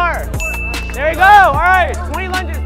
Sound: chill electronic music; bell dings; people speaking indistinct

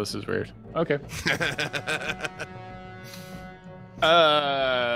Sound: laughs

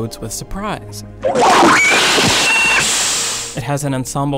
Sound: comical beeping

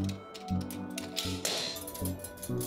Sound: coat hanger dropping

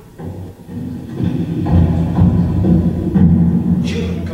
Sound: footsteps

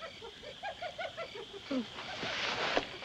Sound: hyena Chattering

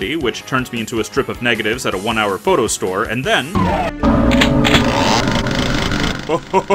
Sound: chainsaw revving

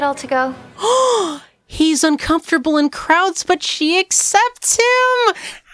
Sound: happy gasp

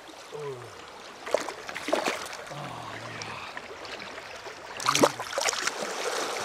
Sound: splash

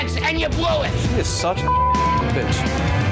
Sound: beep

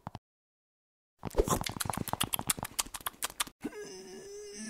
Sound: chewing

